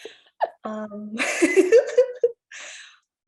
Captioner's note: chuckles